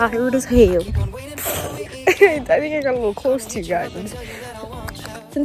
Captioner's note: giggles; kiss